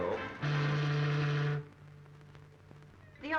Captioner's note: ship's horn